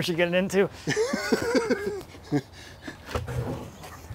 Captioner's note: laughing